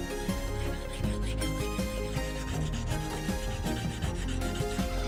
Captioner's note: sandpaper scratching; gentle music continues